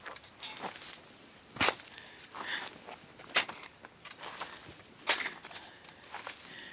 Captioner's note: spade thudding